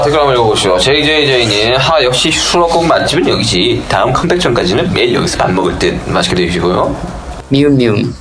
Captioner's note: fan tone